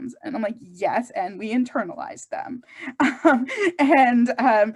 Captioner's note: chuckles